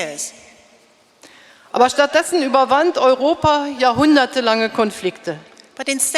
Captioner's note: speaking in German